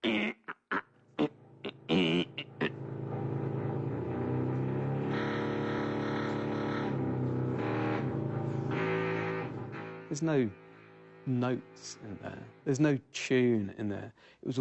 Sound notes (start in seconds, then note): 1.7 grunts; 4.4 electronic buzzing